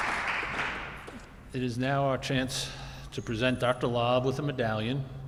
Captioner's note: audience applauding